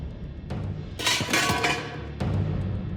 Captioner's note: clatter